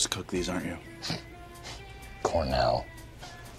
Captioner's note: scoffs